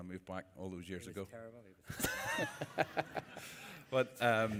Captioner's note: laughter